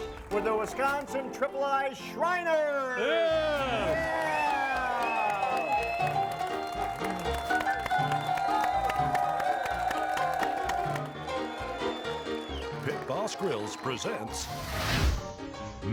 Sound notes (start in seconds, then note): 4.1 audience cheers and whistles; 7.1 jaunty music